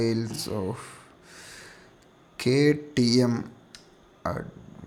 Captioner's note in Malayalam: നെടുവീർപ്പിടുന്നു